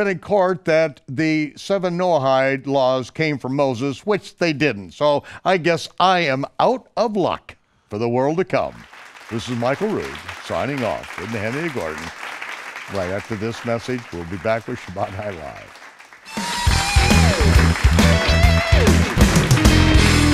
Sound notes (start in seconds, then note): 8.8 applause; 16.2 rock music